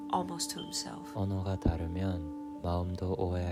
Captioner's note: Korean